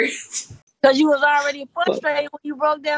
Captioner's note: giggling